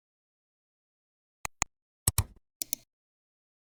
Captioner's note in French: 3 différents clics